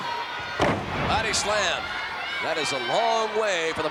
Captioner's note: body thuds